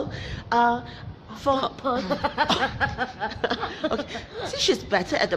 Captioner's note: laughs